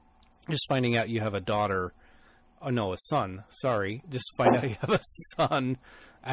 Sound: both laugh

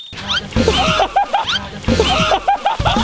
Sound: laughing

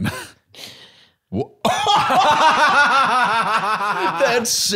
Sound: both laughing

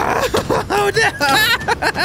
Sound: laughing

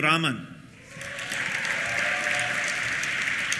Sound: cheers; applause

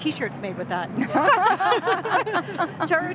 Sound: panelists chuckling

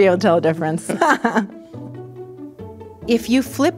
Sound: laughs

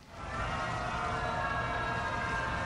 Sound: booing

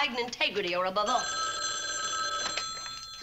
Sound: phone rings

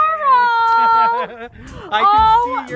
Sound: laughs

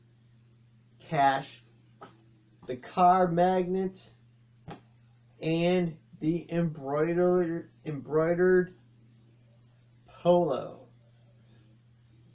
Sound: thump of laying down the magnet

